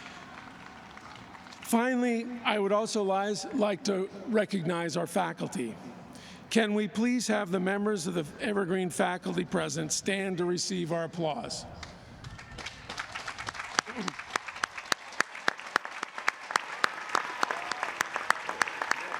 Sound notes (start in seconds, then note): 12.2 applause